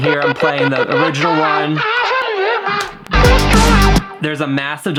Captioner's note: distorted vocal; distorted vocals